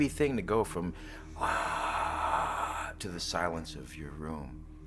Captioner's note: imita gritos